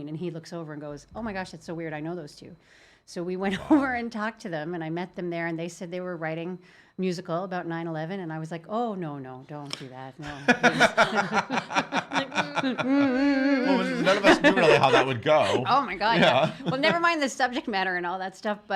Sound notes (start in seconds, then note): 10.2 laughing